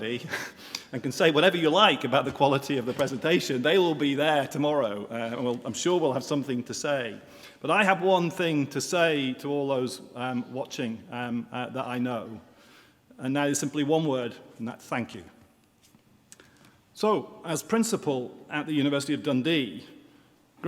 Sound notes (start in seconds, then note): none